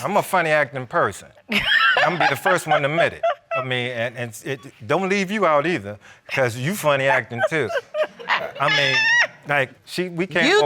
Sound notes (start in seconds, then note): 1.5 laughs; 6.8 laughing